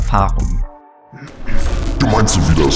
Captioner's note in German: Räuspern; Glitch